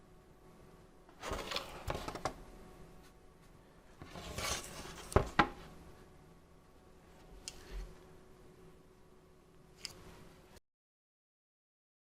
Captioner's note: silence